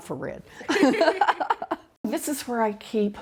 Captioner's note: both laughing